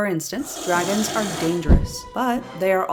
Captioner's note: poof